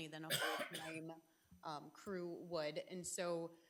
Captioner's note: trustee coughing